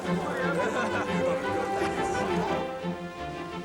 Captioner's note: laughs